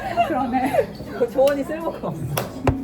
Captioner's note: hahahahahahahahahaha